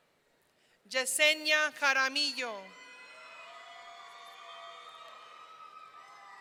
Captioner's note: audience cheering